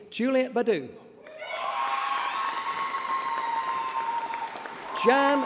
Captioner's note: applause